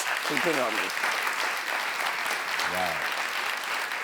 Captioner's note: audience applauds